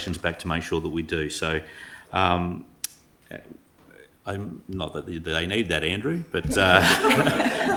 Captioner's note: laughs